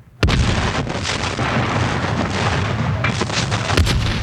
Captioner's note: cannons blasting